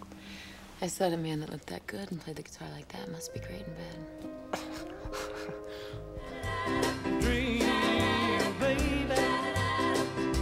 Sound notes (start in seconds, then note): 4.4 laughs